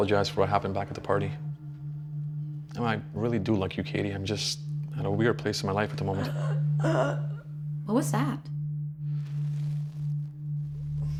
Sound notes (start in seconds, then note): 6.8 Diane gasping